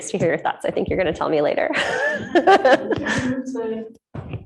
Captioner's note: laughs